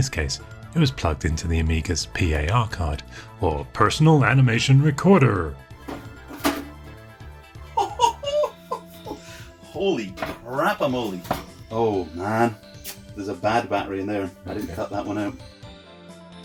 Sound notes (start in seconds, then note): 5.8 Amiga makes loud case-opening sound; 7.6 laughs; 12.7 smacks lips